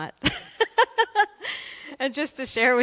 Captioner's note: laughter